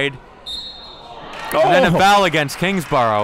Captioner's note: referee blows whistle